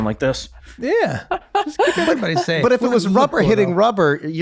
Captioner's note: laughing